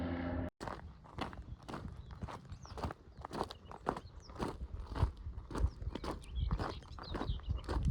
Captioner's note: footsteps